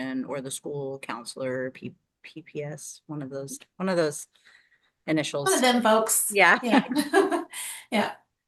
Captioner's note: laughter